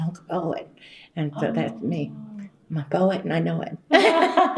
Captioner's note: laughter